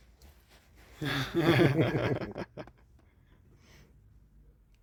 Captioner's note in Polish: śmiech